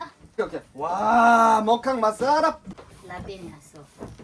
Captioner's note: in Tagalog